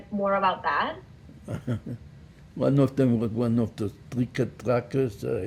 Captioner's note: laughing